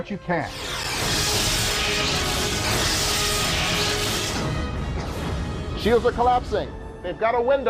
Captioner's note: explosion